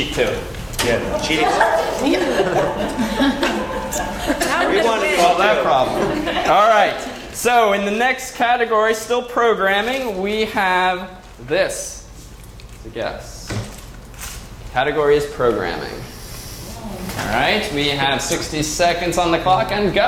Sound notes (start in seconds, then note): 2.6 laugh